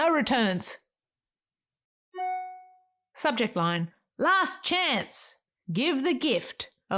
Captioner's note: email arrival ding